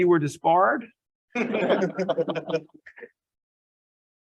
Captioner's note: laughs